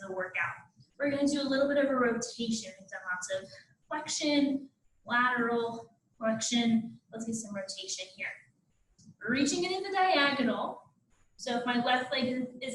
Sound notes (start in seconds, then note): none